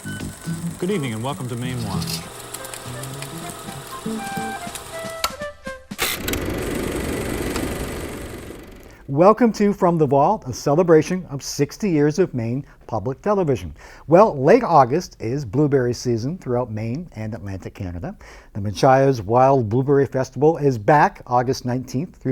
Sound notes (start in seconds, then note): 2.4 upbeat music; 3.8 projector clicking